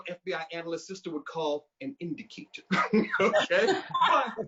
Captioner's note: chuckling